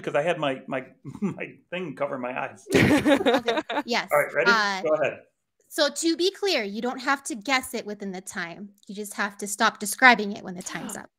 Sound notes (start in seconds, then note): 2.7 laughs